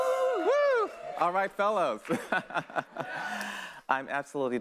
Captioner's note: laughs